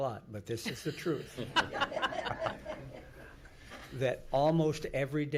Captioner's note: laughing